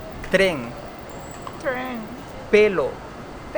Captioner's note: train